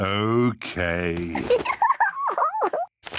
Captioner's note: giggles